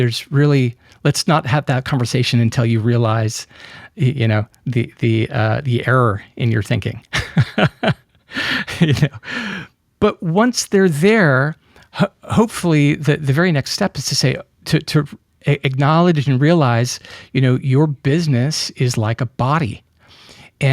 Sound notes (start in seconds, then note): 7.1 laughs